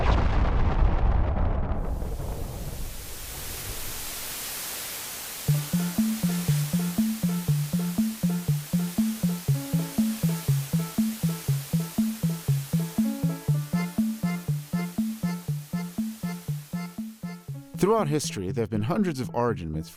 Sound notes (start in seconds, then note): 0.0 explosion; 3.8 static Noise; 5.5 mysterious Music